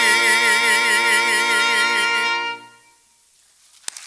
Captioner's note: applause